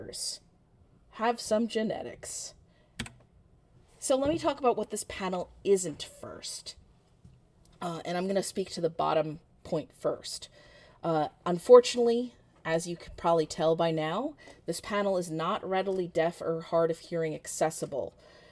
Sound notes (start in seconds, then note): 3.0 keyboard clicks